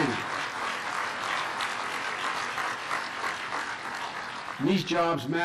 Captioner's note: clapping